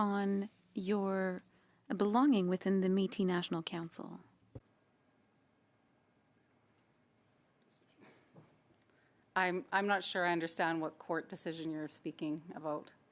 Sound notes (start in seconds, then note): 3.0 speaking French